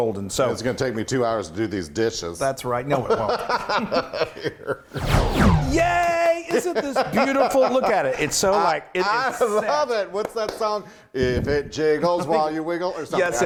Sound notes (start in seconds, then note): 3.0 both laughing; 9.8 laughing